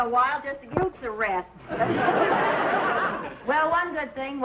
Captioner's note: audience laughing